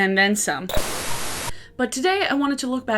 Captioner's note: static crackling